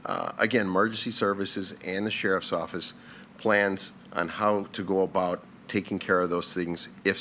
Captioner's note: none